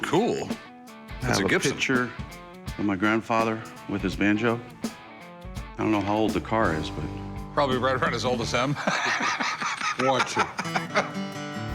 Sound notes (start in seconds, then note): 8.7 rick chuckling; 10.5 banjo music